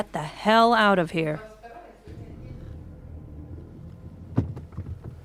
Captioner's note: inside car ambience